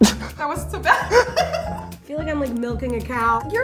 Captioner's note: laughs